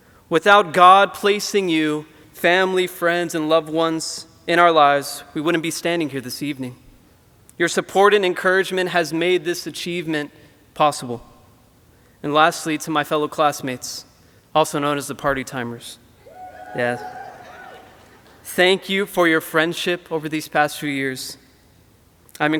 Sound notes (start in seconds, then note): 16.2 audience cheering